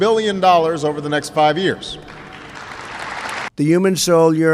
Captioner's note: applause